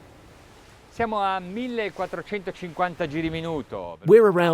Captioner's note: speaking in foreign language